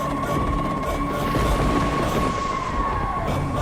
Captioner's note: thunder cracking